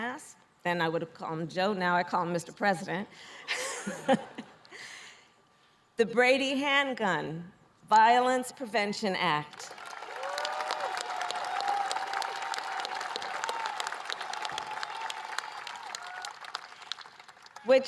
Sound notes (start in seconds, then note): 3.3 laughter; 11.0 applause